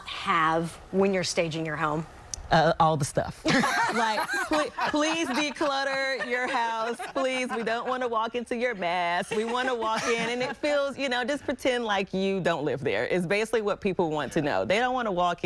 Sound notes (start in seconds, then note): 6.5 laughter